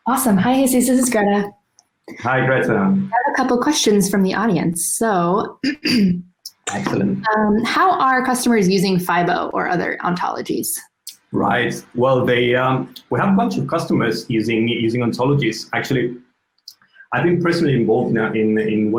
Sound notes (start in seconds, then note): 1.0 speaks in foreign language; 6.6 clears throat